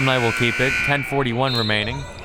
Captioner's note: buzzer